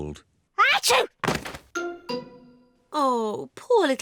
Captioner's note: sneezes